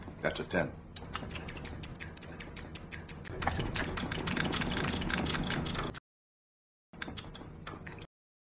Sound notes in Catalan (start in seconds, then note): 1.0 Sons de mastegar; 3.0 Múltiples sons de mastegar; 6.3 Sons de mastegar